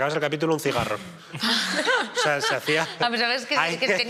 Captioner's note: laughter